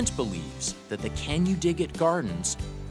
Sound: voiceover

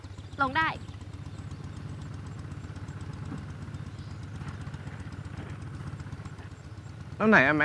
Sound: motorbike engine

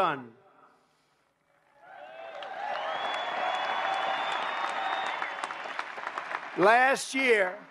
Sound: applause

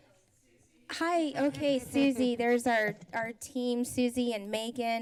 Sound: laughs

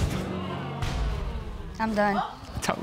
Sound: audience exclaims

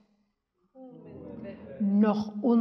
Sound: speaks in Yiddish; audience speaks in Yiddish; speaks in Yiddish

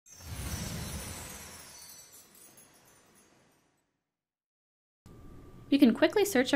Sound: sparkly whooshing sound

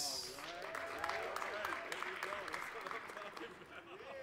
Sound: applause

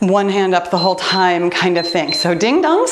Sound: timer beeps

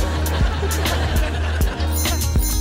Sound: <i>giggles

